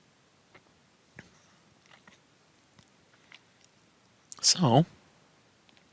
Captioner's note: no Speech Detected